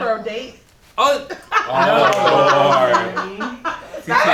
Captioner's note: collective “Oh”